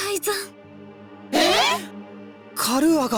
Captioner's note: disbelief